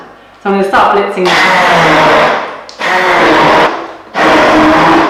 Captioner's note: buzzing